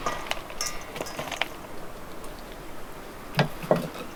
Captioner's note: bowl rattling